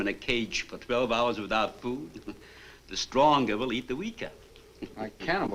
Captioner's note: chuckles